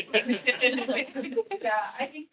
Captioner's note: attendees laughing